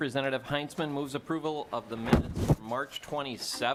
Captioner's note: gavel